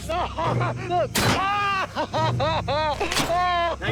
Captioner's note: screaming